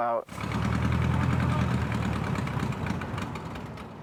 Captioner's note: engine revving